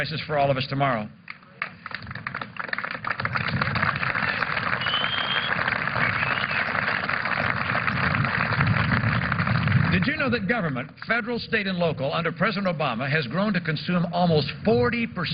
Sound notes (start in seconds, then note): 3.2 applause